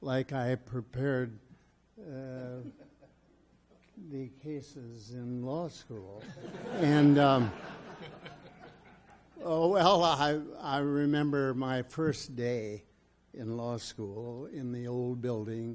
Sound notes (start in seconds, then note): 6.2 audience laughs